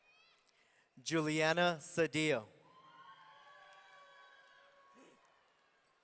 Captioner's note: audience cheering